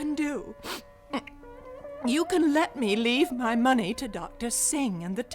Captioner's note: sniffles